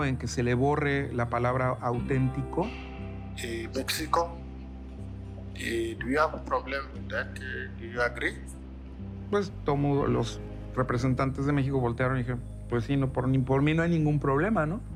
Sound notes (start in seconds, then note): 9.3 in Spanish